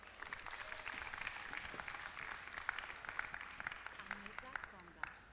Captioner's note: applause